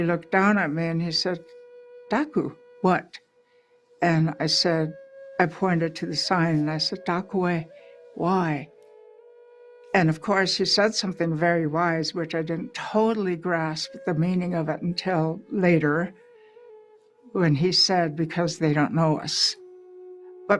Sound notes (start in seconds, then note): 1.7 speaking native language